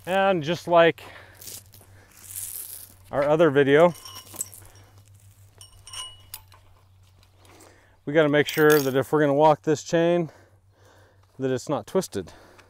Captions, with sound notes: And just like our other video, (chain clinking) we've got to make sure that if we're going to walk this chain that it's not twisted